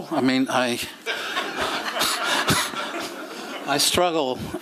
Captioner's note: laughter